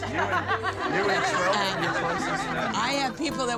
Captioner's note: laughter